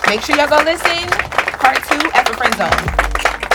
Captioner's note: clapping